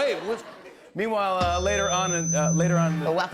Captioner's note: feedback